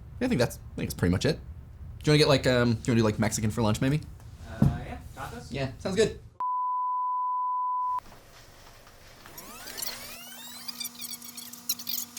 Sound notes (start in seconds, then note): 6.5 beeping; 9.0 tape fast-forwarding